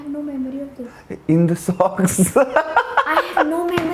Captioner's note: still laughing